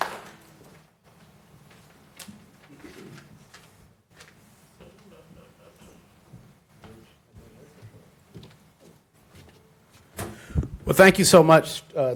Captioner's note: applause